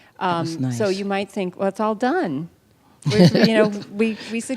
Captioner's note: laughter